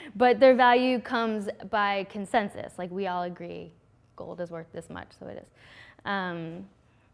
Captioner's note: none